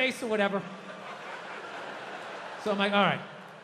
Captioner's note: crowd laughs